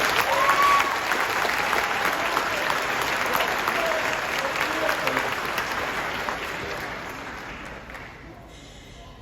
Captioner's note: applause